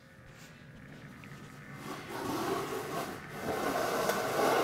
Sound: chair scraping

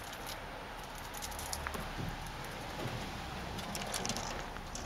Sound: sounds of squirrel scurrying around cage

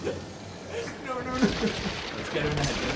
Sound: both making scared noises

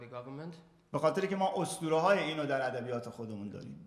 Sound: speaking in farsi

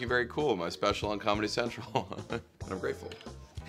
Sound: laughs

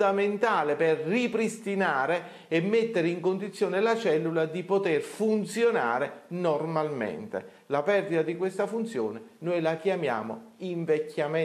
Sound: voiceover

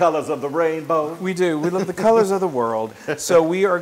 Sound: laugh

